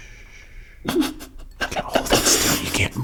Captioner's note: shushing; laughing